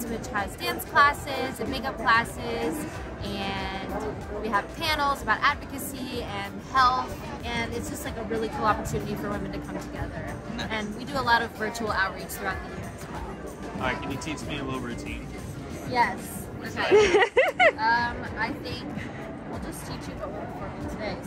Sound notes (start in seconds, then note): 16.8 laughs